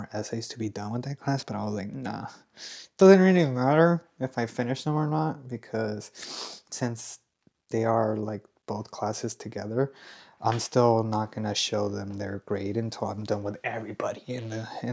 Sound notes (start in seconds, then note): 6.6 snorts